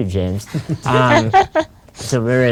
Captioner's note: laughing